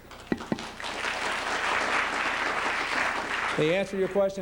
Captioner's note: applause